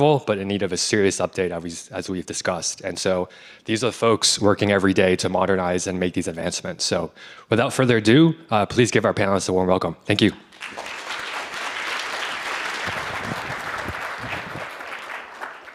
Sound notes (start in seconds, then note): 10.5 audience applauding